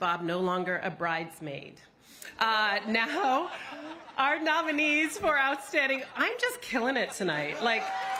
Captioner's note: cheers and applause